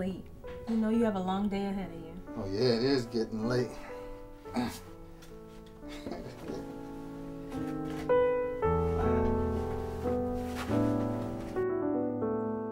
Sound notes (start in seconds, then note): 5.9 Marcus laughs; 9.9 dramatic music